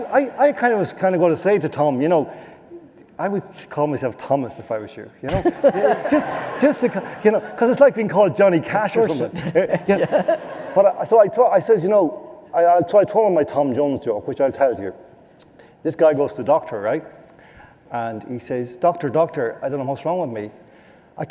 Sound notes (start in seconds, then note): 5.3 laughter